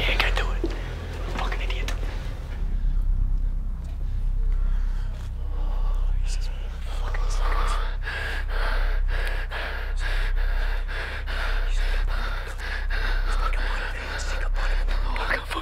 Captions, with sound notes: Go, yeah go do it, fucking idiot. (tense music) Fucking sneak up on him. (men panting) Sneak up on him, sneak up on him, sneak up on him.